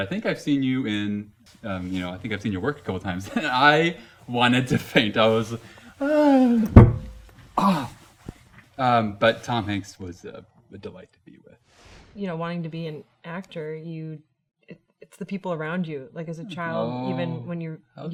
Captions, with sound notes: "I think I've seen you in, you know, "I think I've seen your work a couple of times," and I wanted to faint, I was, oh, (thudding) ow, but Tom Hanks was a delight to be with. - You know, wanting to be an actor, you, it's the people around you, like as a child, even when you're younger - Oh, how darling.